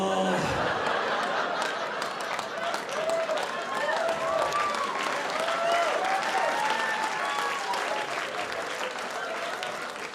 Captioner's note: audience cheering